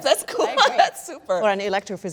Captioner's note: laughing